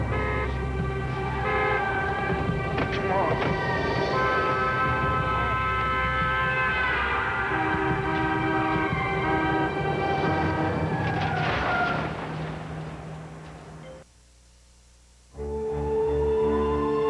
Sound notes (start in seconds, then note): 2.4 horns honk; 6.0 tires squeal